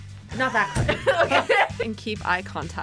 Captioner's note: laughs